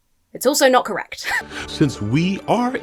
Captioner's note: wheezes